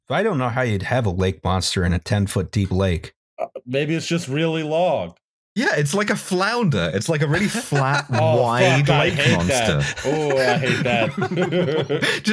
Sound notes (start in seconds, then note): 7.2 laughs; 11.6 laughter